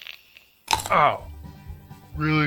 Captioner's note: cat bite